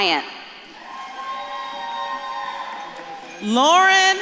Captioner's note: audience claps and cheers